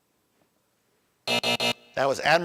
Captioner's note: buzzer buzzing